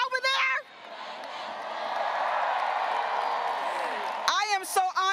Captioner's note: graduates cheering